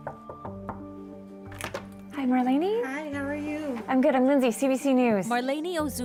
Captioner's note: knocking on door